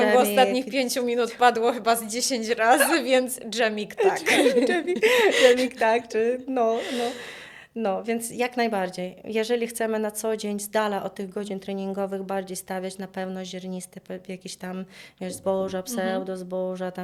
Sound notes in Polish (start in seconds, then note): 4.0 śmiech; 6.7 wciągnięcie powietrza